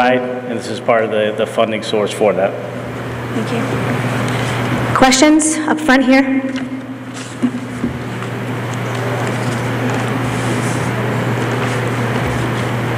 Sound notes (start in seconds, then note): none